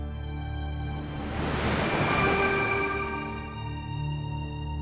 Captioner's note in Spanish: Sonido magico